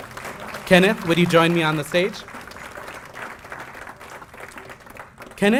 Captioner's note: applause